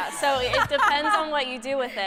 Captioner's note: laughter